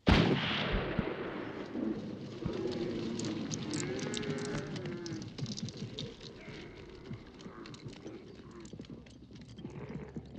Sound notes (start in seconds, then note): 0.0 gun fires; 3.1 camels groaning